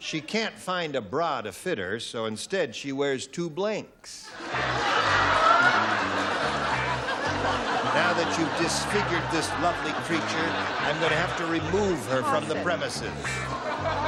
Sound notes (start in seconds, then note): 4.6 laughter; 6.8 theme music